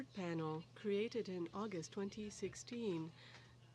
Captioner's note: speaking french